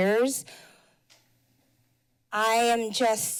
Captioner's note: pause